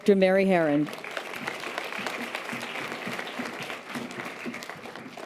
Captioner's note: audience applause